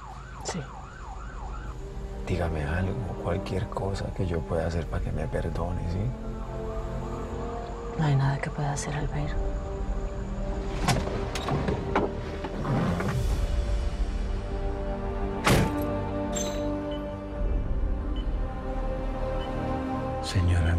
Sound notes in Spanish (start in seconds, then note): 15.4 Portazo